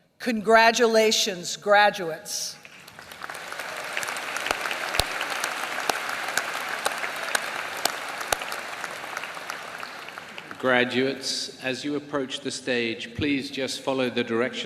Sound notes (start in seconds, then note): 2.6 applause